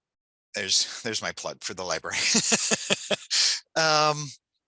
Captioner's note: laughs